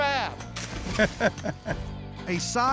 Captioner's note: laughter